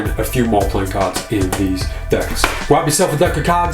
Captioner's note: box snaps